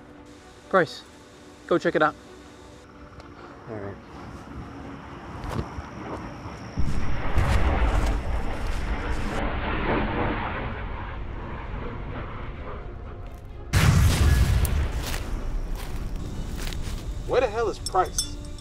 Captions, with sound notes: Price, go check it out. [Adventurous orchestral music begins] [sound of jets] [sound of explosion] Where the hell is Price?